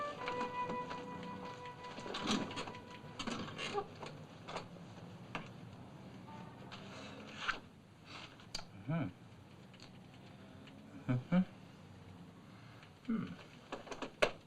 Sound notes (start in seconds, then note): 2.1 chair creaks